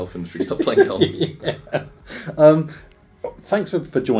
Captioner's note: laughter